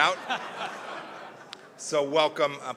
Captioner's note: laughter